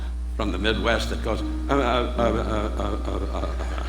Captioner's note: imitates Bob Newhart stammering; audience laughing